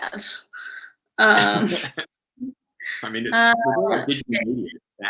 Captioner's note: laughs